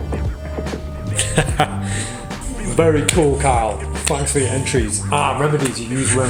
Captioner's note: laughs